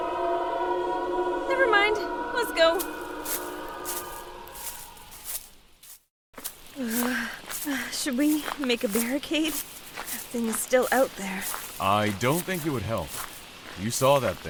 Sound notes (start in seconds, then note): 0.0 shrieks in the distance; 6.7 shivering